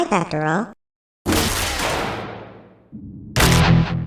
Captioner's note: gate opens